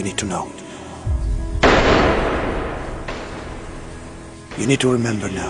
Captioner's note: gun firing